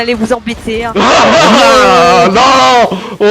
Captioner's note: laugh